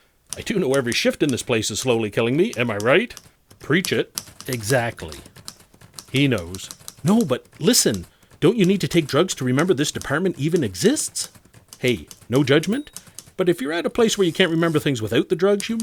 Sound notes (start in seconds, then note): none